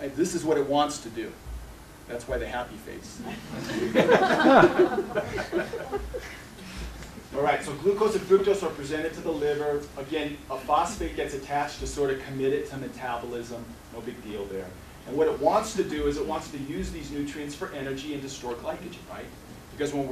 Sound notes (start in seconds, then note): 3.2 laughter